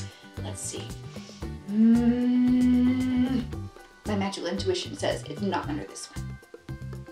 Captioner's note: hums